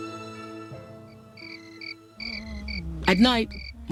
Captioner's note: crickets chirping